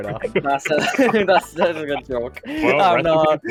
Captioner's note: laughing